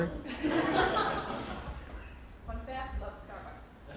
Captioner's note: laughing